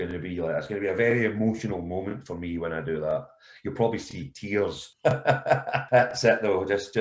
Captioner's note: laughter